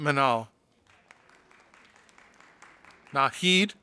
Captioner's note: audience applauding